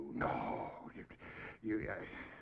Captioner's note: stammers